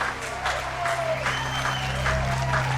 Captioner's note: cheering; soft dramatic music